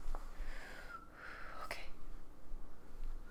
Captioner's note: nervous exhale